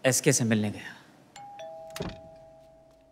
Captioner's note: Doorbell rings